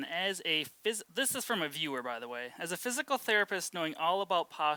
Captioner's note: none